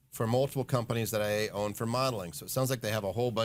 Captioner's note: none